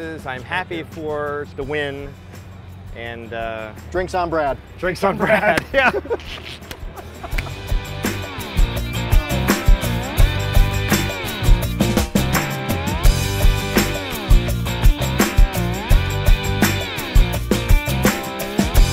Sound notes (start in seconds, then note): 5.0 laughing; 8.1 rock music